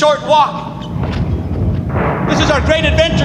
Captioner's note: explosions booming